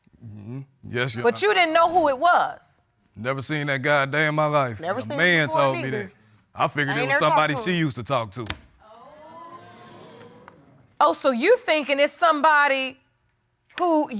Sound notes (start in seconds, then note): 8.8 audience oohing